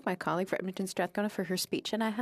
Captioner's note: speaking French